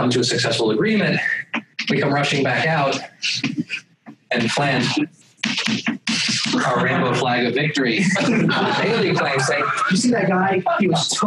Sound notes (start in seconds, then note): 8.0 laughter